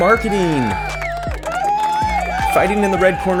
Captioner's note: crowd cheering; country rock music